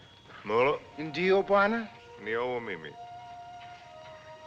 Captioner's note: both Speaking African Language